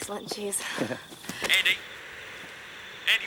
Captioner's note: Graham chuckles